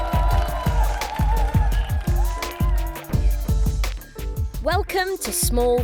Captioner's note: protesters cheering and clapping